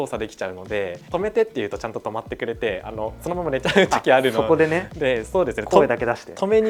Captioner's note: laughs